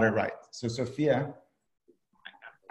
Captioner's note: whispering